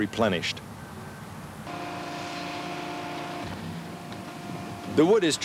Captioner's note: engine running